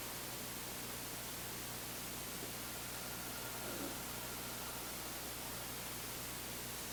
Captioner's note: both exhaling; both inhaling